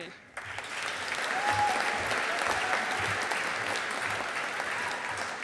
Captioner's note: audience applauding